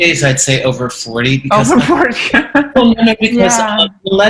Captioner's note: laughing